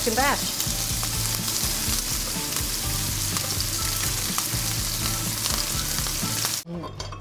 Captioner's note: scallops sizzling; bright music